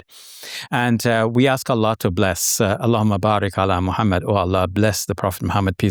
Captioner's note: speaking Arabic